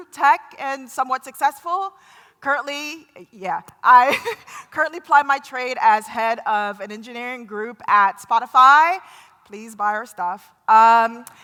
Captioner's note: laughter